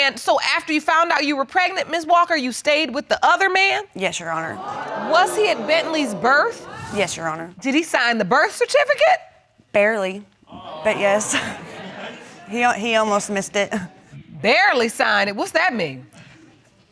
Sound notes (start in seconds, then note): 10.9 chuckles